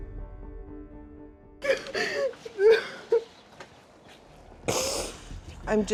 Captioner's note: sobbing